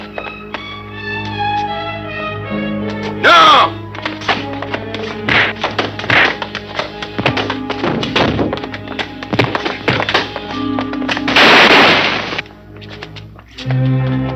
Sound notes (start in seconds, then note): 5.2 thudding; 11.2 gunshots blasting